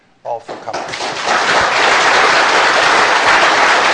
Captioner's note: applause